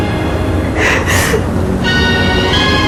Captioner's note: sobs